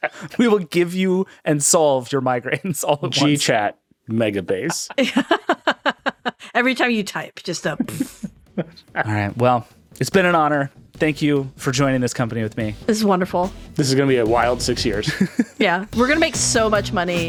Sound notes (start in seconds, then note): 0.0 laughing; 4.6 all laughing; 7.7 blowing raspberry